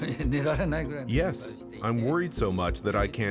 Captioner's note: speaking Japanese